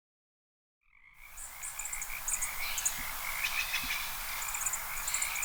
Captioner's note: frogs croaking